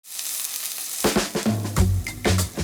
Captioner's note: steaks sizzle